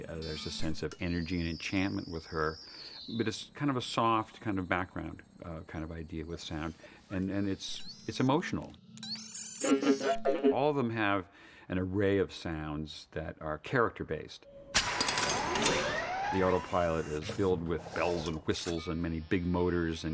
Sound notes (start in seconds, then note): 9.6 laughing; 14.6 whirring